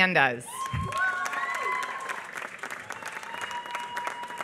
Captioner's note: applause